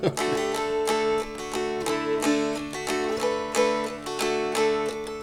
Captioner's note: laughter; dulcimer playing